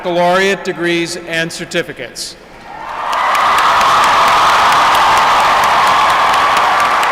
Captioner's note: applause